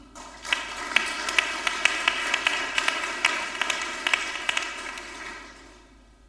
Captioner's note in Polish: oklaski